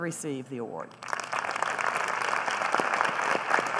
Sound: applause

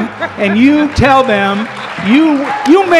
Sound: cheers and applause

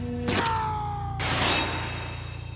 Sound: gunfire

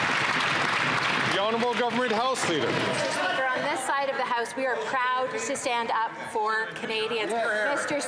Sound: some Applause

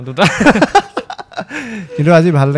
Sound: laughs

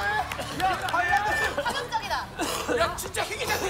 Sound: cough

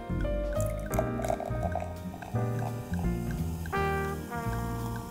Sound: champagne cracks & fizzes

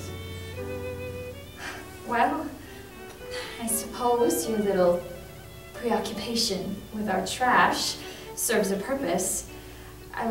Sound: scoffs

